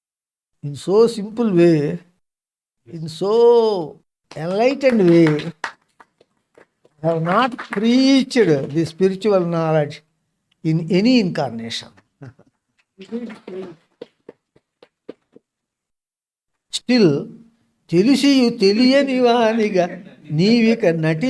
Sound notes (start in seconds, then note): 13.0 claps